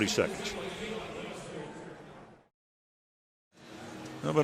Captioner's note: pa announcement